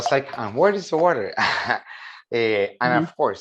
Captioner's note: chuckles